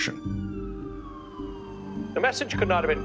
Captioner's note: siren wailing in distance